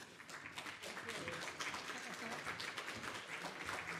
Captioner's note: audience applauds